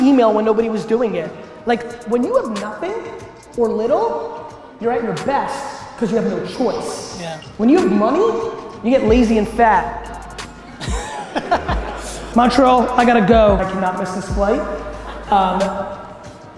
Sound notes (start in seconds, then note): 10.5 audience laughs